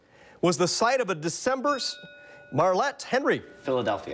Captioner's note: bell dings